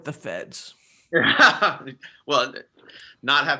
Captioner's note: laughs